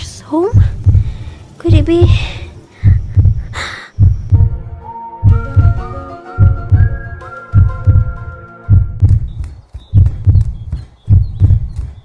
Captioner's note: gasps; footsteps running sounds